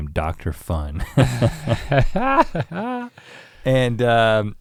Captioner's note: both chuckle